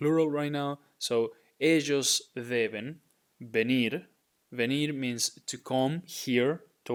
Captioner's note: speaking in Spanish